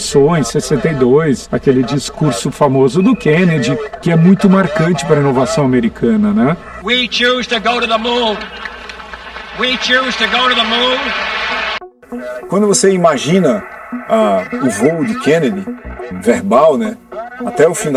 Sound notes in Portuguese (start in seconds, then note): 12.2 Aplausos